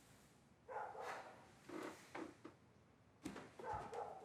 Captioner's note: dog barking